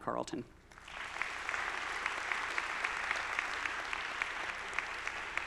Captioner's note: audience applauding